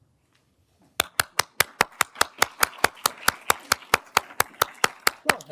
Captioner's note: everyone applauding